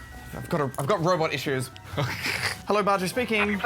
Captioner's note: laughs